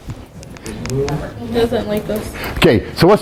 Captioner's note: students chattering